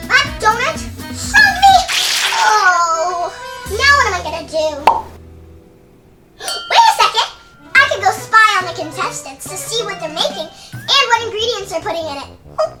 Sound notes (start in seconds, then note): 4.8 pop sound